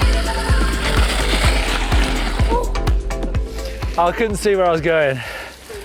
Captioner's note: bike skids on gravel